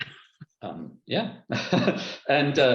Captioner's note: laughter